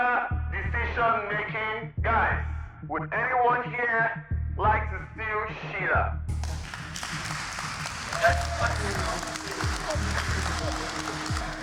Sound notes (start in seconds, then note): 6.3 applause